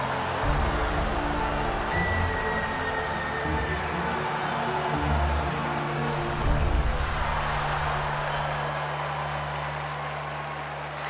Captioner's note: cheering